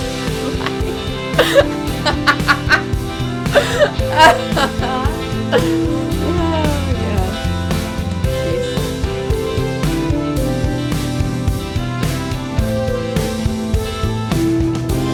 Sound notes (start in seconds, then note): 0.2 laughs; 1.9 laughs, maniacally